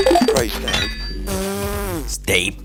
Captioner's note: blowing raspberry